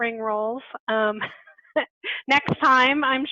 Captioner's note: laughing